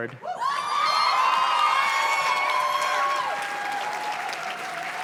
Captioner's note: audience cheers and claps